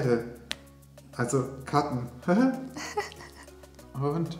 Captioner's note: both laughing